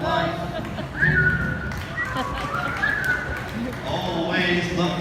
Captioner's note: whistling